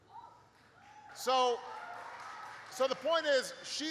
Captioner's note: applause